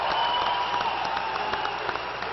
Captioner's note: applause